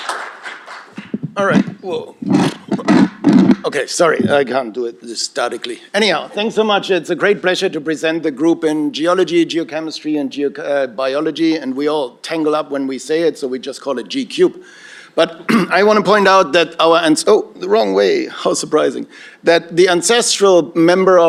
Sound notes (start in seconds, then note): 2.3 flutters lips